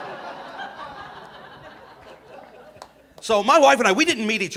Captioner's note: audience laughing